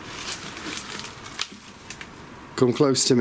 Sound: leaves cracking under feet

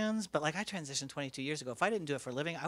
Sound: none

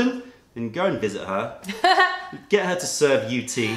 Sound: laughter

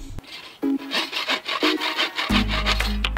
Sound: sawing

